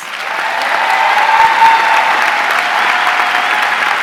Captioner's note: audience cheering